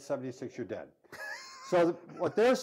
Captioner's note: laughs